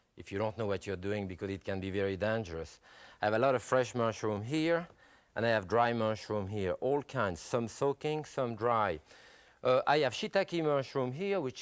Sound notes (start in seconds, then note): none